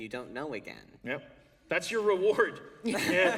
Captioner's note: laughter